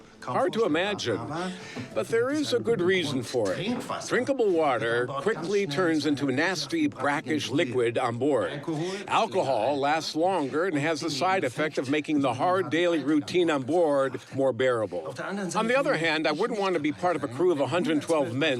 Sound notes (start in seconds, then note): none